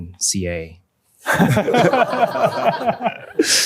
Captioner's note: laughter